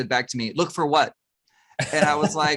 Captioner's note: chuckles